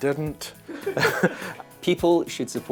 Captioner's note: off screen laughter